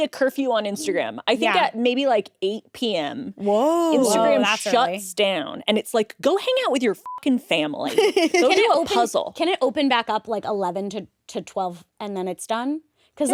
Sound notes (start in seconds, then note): 7.0 beep